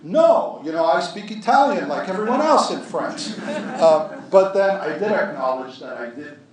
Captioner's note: laughter